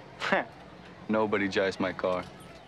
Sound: chuckles

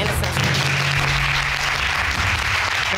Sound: audience clapping

